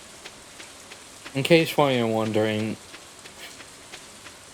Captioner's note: huff